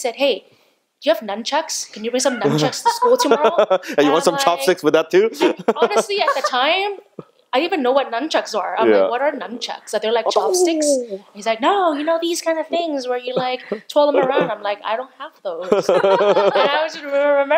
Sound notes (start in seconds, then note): 5.3 laughing; 15.6 laughing